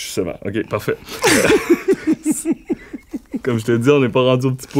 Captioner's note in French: rires